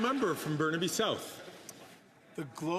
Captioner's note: some Applause